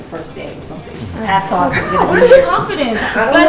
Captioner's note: chatter